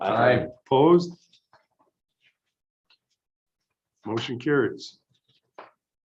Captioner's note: silence